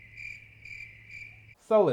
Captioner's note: crickets